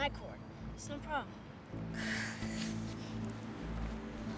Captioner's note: sighs